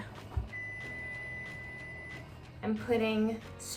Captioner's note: beep